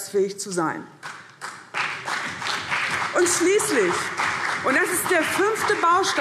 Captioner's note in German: Beifall CDU und vereinzelt BÜNDNIS 90/DIE GRÜNEN